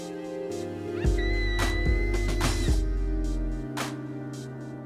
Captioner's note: screams